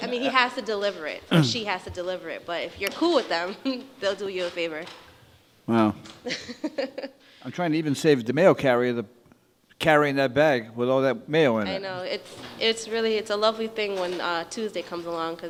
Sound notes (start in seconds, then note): 0.0 woman laughs; 6.2 woman laughs